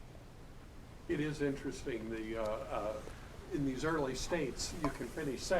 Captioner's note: voiceover